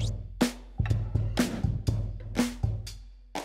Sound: air whooshing; upbeat percussive music

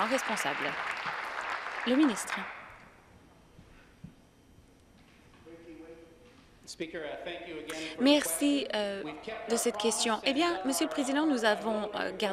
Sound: applause

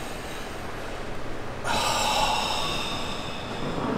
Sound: sighing

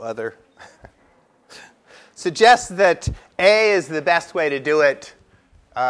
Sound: laugh

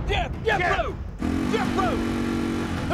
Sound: engine revving

